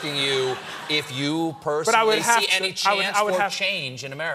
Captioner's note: laughter